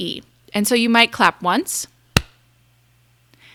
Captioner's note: claps